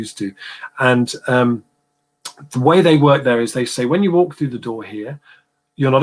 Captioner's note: erm